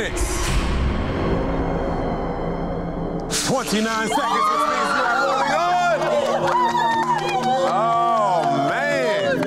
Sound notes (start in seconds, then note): 0.0 dramatic music; 4.2 both screaming; 6.4 laughing; 6.9 contestants clapping